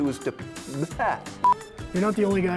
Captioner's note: speaks gibberish; beeping